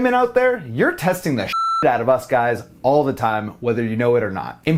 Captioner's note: beep